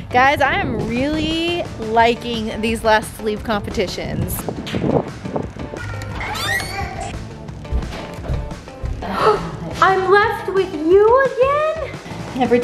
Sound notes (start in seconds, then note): 5.7 door squeaking; 9.2 gasping